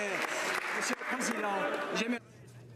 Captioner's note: some Applause